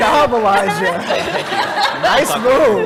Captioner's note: laugh